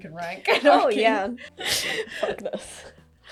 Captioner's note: laughing